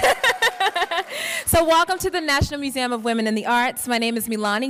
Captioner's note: laughs